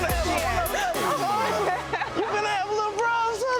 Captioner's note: queen laughing